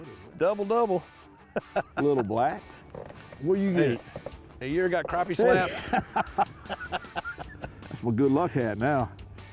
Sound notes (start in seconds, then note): 5.4 laughter